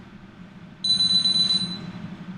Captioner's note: phone rings